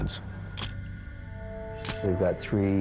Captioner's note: camera shutter click